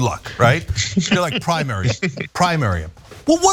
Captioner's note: laugh